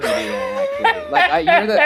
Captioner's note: laughs